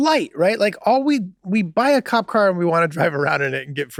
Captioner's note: Charlie laughing amusingly